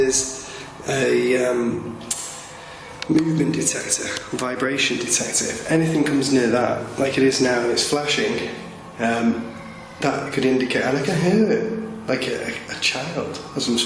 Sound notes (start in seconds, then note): 9.2 child crying